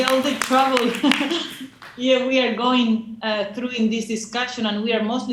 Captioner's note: laughs